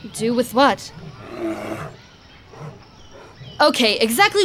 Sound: loud growl

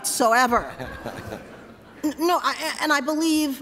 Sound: laughter

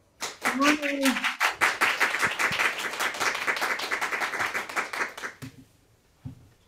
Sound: applause

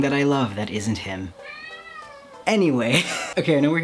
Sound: cat meows; scoffs

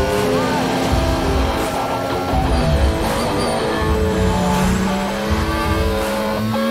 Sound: cars speeding

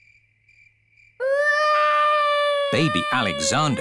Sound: baby alexander crying

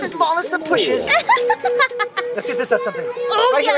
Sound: laughs

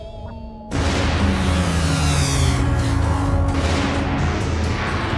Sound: portal buzzing; dramatic synth music

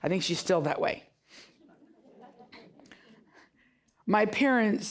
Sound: audience giggling

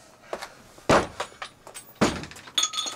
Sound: door slams open

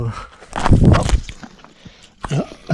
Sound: fall noise

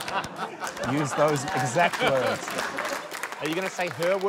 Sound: laughter; applause

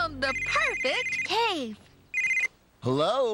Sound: cell Phone Rings

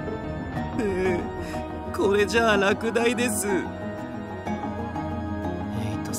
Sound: sob

